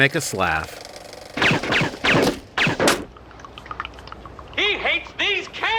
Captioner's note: gunshots